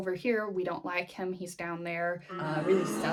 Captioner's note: boo!